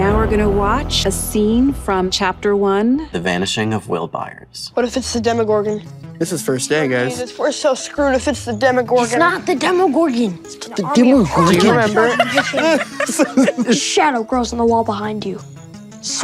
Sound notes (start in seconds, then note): 11.4 everyone laughs